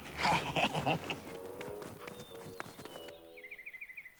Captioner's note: both laughing